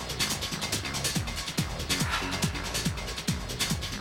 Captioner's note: sighs